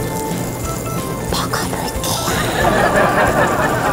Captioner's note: Whisper